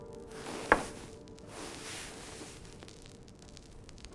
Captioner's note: glass thuds